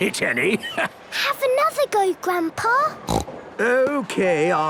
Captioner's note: snorts